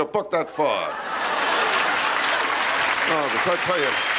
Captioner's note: laughter and applause